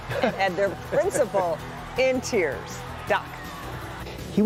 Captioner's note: cheers